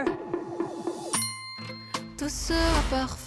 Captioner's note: long-awaited return sound effect